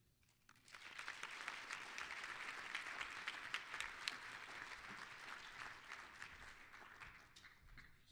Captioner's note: applause